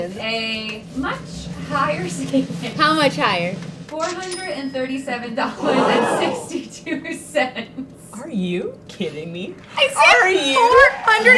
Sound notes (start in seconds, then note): 2.3 laughs; 5.5 crowd gasps; 5.5 laughing